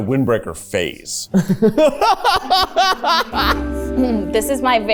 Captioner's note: laughs